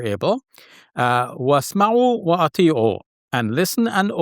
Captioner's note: talks in Arabic